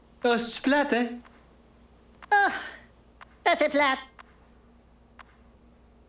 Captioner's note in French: Tic tac